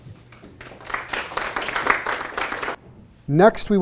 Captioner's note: audience applauds